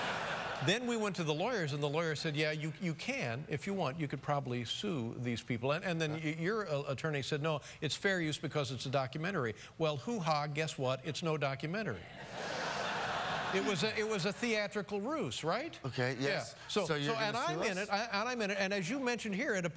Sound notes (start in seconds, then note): 7.4 laughter